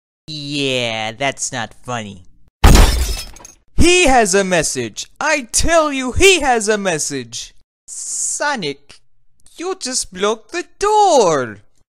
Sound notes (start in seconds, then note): 2.6 door breaks open